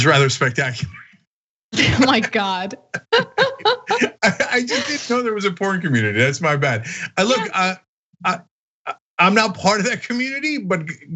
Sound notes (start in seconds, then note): 1.8 laugh